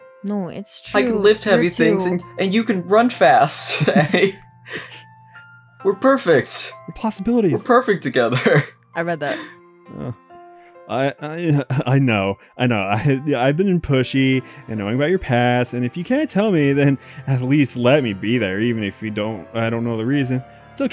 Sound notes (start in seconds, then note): 3.6 giggles